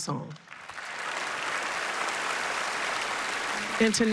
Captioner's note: applause